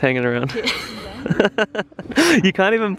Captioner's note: laughs